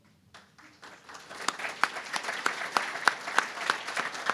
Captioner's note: applause